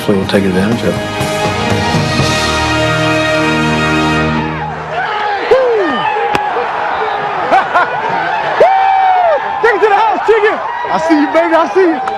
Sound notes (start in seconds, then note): 4.9 laughs